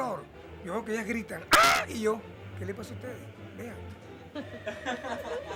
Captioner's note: ahhhh he screams; laughts